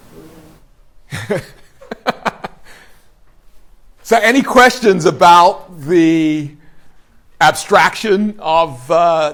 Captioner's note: laughs